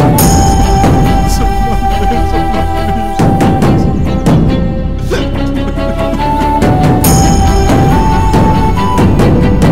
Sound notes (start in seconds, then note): 5.0 sobbing